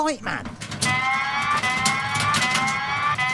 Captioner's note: alarm